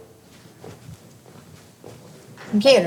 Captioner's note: footsteps